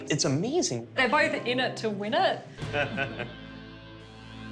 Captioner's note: laughter